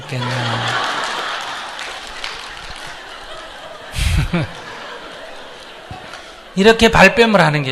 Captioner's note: laughter; audience Laughter